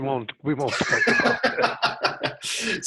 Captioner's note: laughter